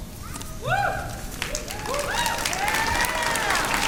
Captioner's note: cheering and applause